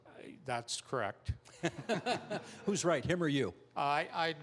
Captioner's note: chuckling